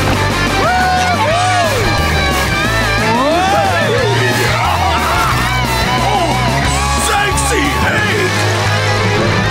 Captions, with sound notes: Whoo hoo! Whoa! [laughing] Ah! Zeg see egg!